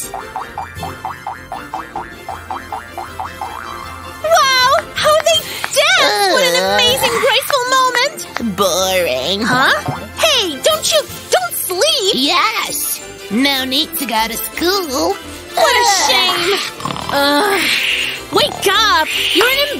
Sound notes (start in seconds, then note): 6.2 yawns; 16.2 loud snoring; 16.3 keeps snoring